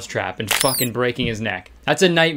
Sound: mouse squealing

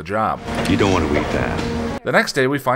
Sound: in an American accent

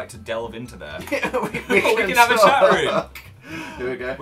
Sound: laughs

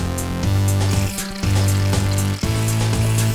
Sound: shaving cream squirting

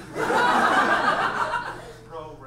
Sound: audience laughs

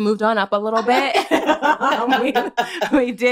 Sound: laughter

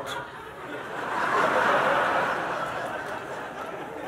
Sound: laughter

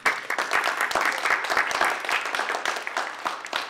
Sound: applause

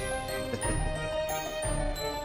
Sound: chuckles

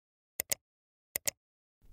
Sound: click!

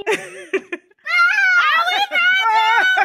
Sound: laughing; screaming

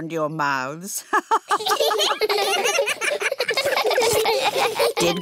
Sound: all laughing; laughs

